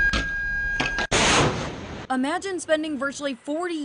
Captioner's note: missile fire on ship